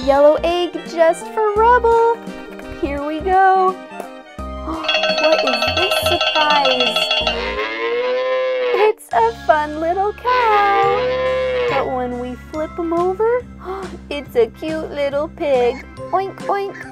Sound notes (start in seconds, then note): 7.6 cow mooing